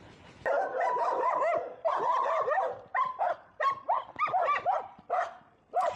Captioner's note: dogs barking